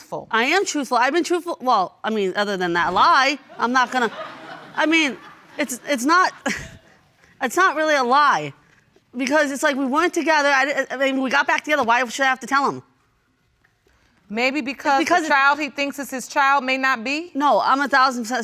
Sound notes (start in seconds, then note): 3.4 audience laughing; 6.3 chuckles